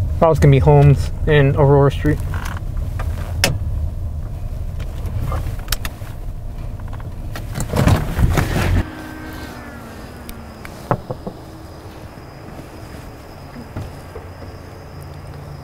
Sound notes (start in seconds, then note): 3.2 car window clicks; 7.7 car thuds; 8.2 device whirring